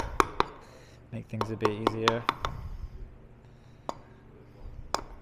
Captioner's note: metal hammering